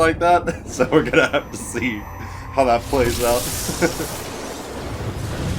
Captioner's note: laughs